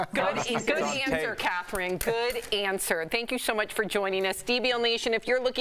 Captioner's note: laughter